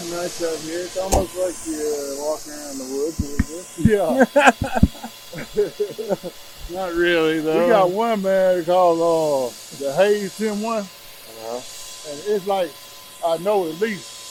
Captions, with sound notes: - I don't know, it's kinda nice out here. It's almost like you're walking around the woods a little bit. - Yeah. (both men laugh) - Not really though. We got one man called the hazing one and it is like I know at least